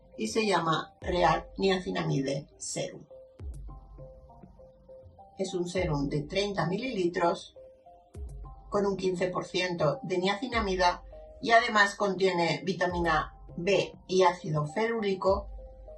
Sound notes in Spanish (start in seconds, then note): none